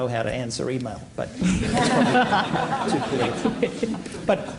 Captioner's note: laughter